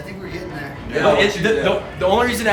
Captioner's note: murmurs